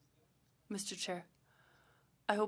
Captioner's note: speaking French